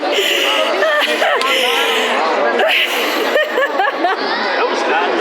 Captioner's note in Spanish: Risas